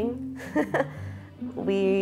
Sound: laughs

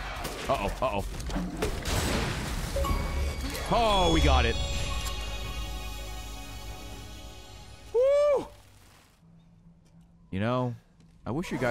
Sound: monster noises

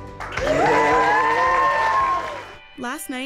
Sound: cheers and applause

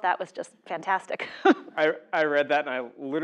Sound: laugh

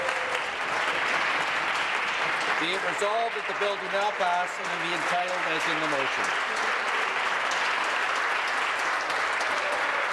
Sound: applause

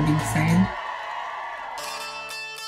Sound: crowd cheering; slow music

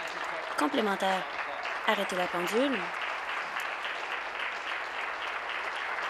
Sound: applause

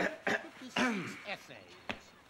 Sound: clearing throat

